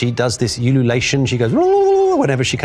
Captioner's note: tongue trill